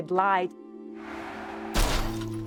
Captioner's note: tires screeching; crash